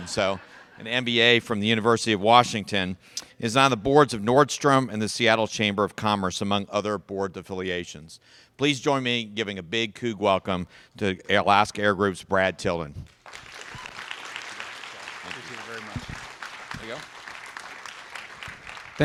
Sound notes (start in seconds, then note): 13.1 applause